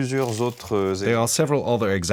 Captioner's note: French spoken audio